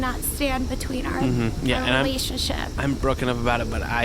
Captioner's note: nonchalant